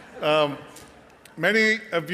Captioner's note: audience laughing